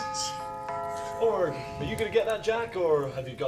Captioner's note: door bell